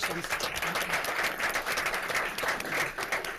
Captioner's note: claps